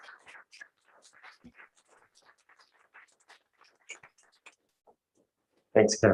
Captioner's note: applause